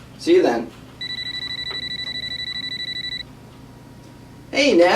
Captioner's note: phone ringing